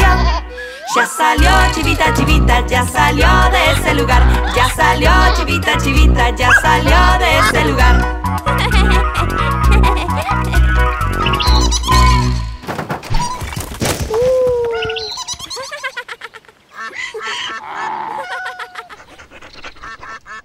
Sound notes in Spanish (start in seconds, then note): 8.1 Música Alegre; 11.1 Sonido de pájaro; 14.6 Sonido de burro, pato